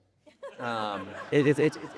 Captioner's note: audience laughing